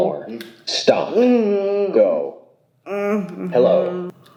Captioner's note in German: Sprachgerät